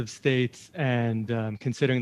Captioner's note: speaking French